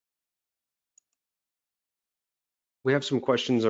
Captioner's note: mouse clicking